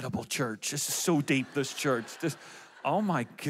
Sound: audience laughs

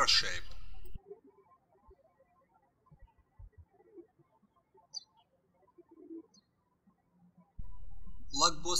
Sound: birds chirping

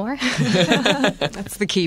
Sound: laughter

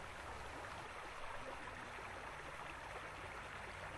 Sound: light sounds of running water at Bear Creek Park

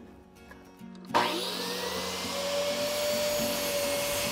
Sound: saw whirs

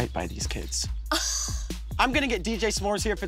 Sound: Desiree laughs

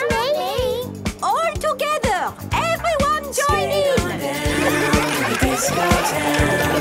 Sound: laughter

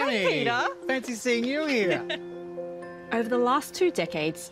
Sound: chuckles

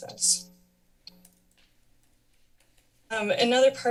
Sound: pause

